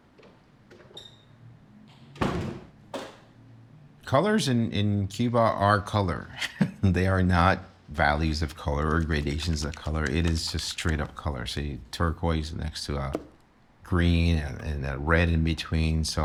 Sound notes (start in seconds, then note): 6.3 chuckles